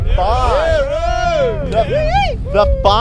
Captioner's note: soldiers cheering